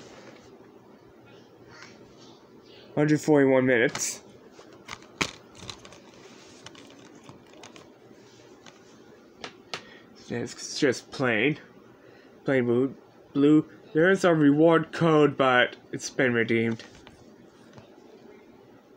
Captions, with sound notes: 141 Minutes [Case pops] [disc rattling] disc is just plain Plain blu....blue there was a reward code, but it's been redeemed